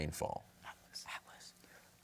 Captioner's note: whispering